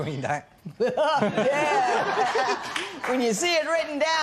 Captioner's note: laughing